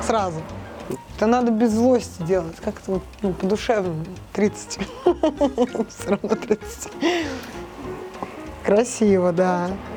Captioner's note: laughing